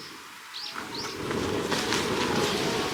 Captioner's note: A sudden gust of wind